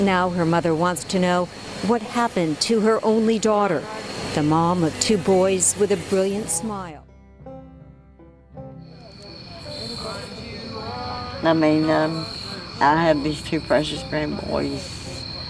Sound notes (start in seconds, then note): 6.8 upbeat music; 8.8 insects chirping